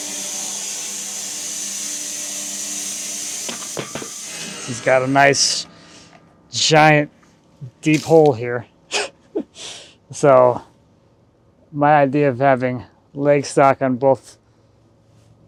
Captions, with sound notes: (woodcutting machine hissing) (log thudding) He's got a nice giant deep hole here. (chuckles) So my idea of having leg stock on both sides or both ends,